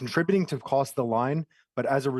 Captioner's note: speaking French